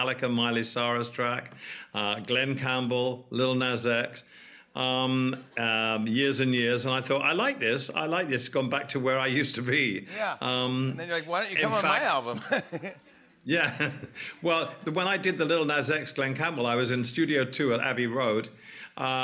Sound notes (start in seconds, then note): 11.0 laughs